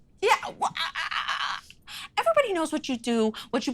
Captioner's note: stutters